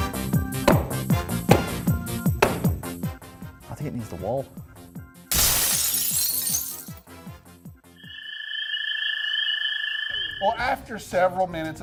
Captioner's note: glass breaking